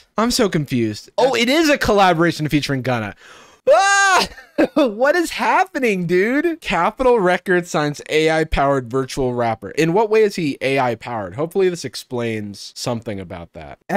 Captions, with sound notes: I'm so confused. Oh it is a collaboration featuring Gunna. Ah! (laughs) What is happening dude? Capital Records signs AI powered virtual rapper. In what way is he AI powered? Hopefully this explains something about that,